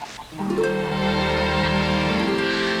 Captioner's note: chuckles